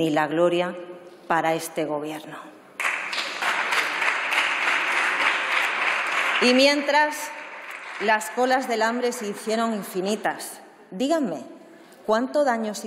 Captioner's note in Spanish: Aplausos